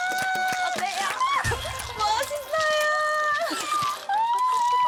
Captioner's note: laughing